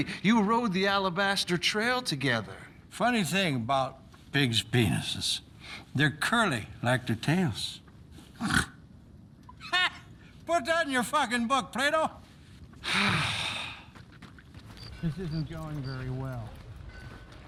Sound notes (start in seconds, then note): 8.3 snorts and laughs; 12.8 sighs